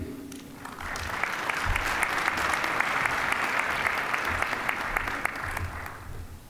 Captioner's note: applause